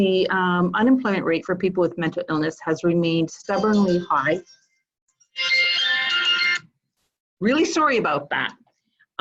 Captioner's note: phone ringing